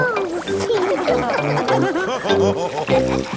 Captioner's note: all laughing